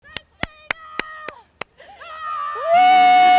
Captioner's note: clapping